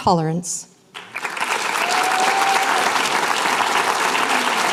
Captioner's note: applause